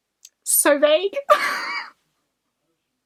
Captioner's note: laughs